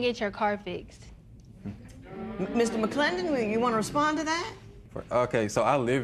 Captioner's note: spectators murmur